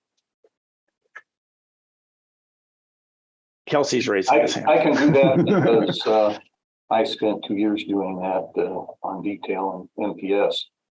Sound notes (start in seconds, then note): 4.3 laughs